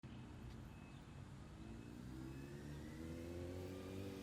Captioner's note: soft revving sound